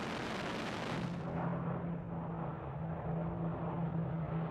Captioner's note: plane roaring